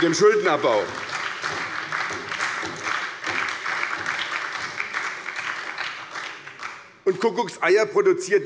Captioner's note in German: Beifall bei der SPD